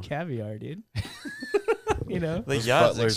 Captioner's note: laughing